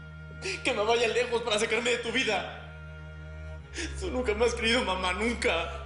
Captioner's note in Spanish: Solloza